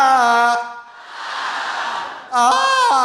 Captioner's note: Trixie screams melodically; audience screams melodically; Trixie screams melodically